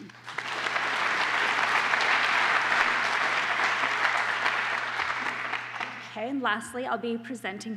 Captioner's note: applause